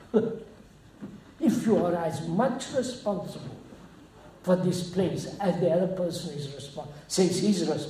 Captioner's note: laughs